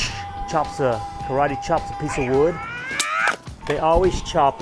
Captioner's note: person shrieking